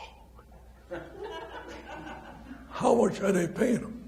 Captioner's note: laughs